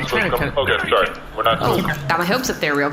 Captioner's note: nervous